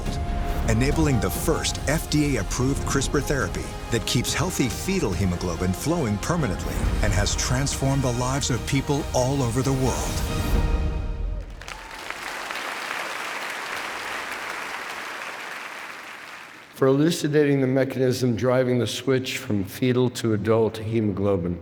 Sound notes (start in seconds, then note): 11.4 audience applauding; 11.6 bold dramatic music